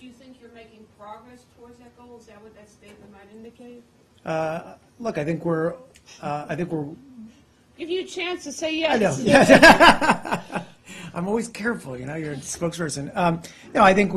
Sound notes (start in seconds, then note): 9.0 laughing